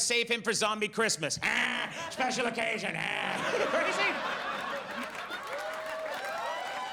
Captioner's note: audience laughs and cheers